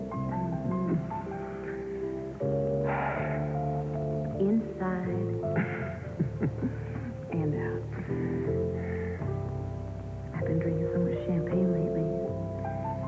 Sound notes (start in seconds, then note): 2.2 Josh sighs again; 5.5 Josh chuckles